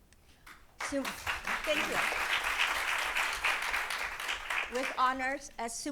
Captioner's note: audience applauding